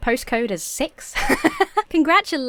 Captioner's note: laughs